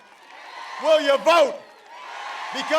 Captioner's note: applause